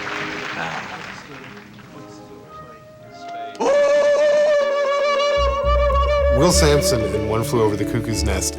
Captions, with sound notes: - How! (chanting loudly) - Will Sampson, in One Flew Over the Cuckoo's Nest,